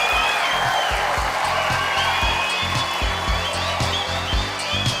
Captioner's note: audience applause; theme music plays